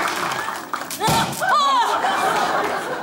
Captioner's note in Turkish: Konfeti patlama sesi